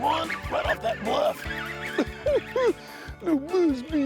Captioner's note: chuckling